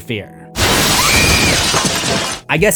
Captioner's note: screams